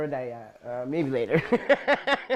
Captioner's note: laughs